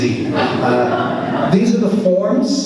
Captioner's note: audience laughs